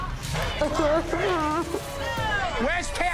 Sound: crying

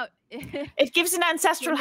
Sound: laughs

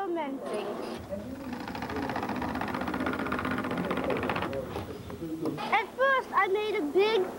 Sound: vibration sound

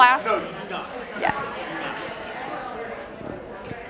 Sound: chatter

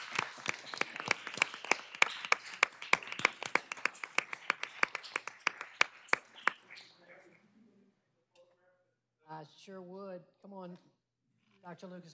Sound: cheers and applause

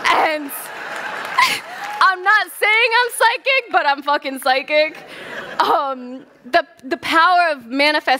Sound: laughter

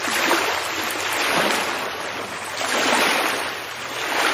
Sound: ocean Waves

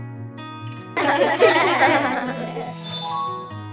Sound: children laughing

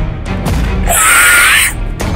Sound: screaming

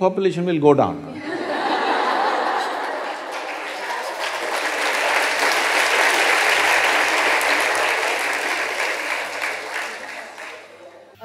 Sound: laughter/Applause

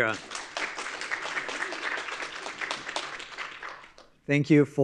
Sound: audience applauding

